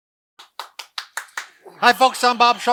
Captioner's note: clapping